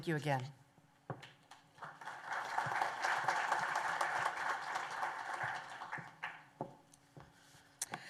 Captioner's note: applause